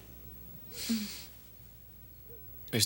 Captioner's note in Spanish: John cheirando